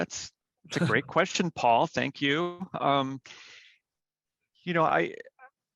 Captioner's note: laughs